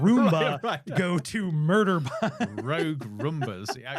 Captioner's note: laughs